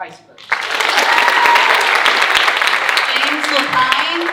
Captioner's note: audience cheering and applauding